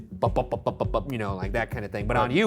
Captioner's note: makes beating sounds